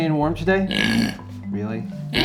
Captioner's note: oinks